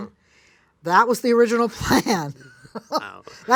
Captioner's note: laughs